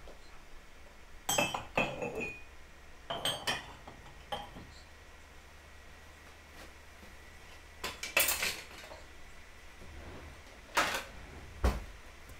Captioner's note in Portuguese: ruídos de objetos em arrumação